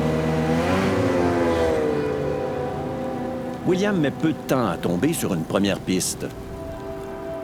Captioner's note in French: bruit de la motoneige